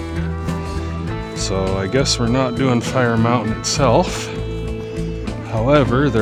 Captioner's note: thunder claps - stop fact checking and just trust me!